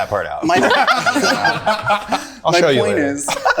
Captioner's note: group laughing